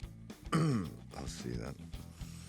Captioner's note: throat clears